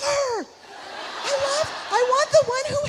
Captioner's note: audience laughs